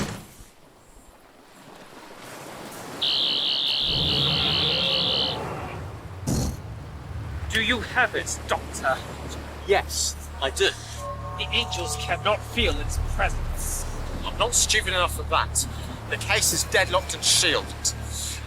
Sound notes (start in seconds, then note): 0.0 door opening and closing; 3.0 brief whooshing; 3.0 buzzing